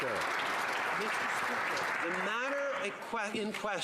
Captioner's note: some Applause